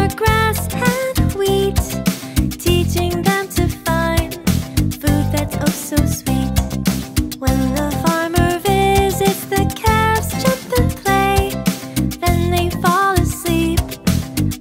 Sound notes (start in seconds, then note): none